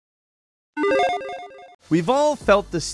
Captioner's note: electronic chiming